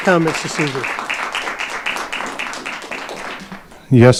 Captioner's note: audience applauding